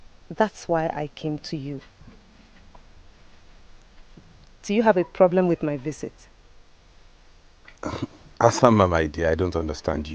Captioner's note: clears throat